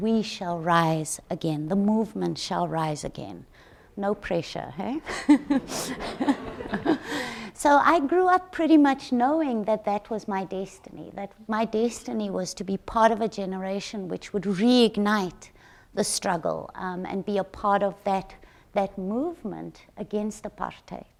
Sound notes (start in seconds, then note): 5.1 all chuckle